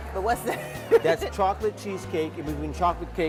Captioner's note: laughs